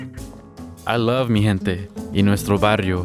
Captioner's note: speaks Spanish